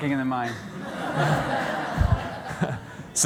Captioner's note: laughter